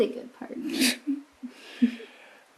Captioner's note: chuckling